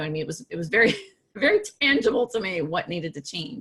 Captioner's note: laughs